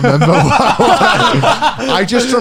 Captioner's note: laughs